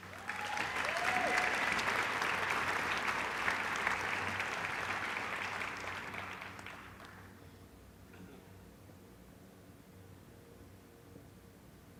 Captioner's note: applause